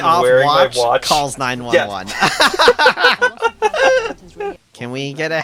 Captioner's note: laugh